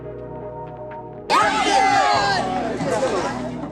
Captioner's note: cheers